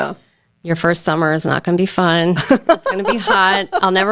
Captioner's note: laughing